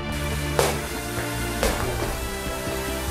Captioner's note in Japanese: ボールの弾む音